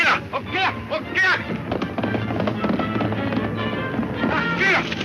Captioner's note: speaks in foreign language